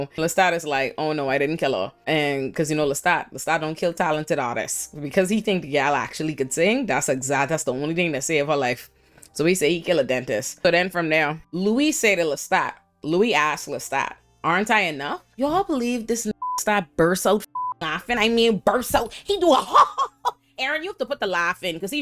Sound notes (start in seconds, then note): 16.3 beep